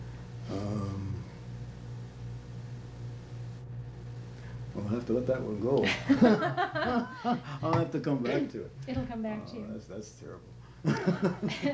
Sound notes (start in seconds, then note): 10.8 laughter